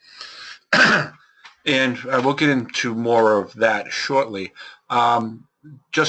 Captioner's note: cough